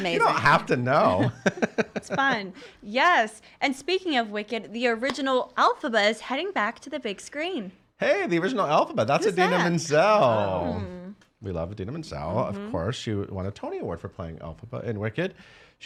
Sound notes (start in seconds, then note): 2.0 laughing